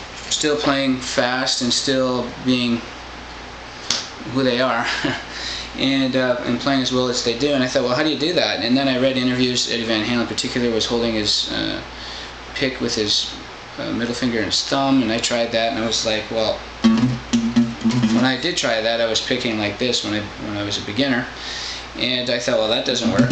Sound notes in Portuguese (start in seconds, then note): 4.8 risos